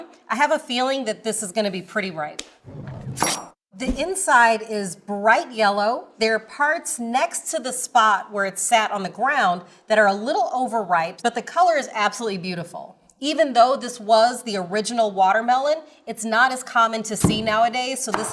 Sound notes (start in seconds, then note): 3.8 knife chops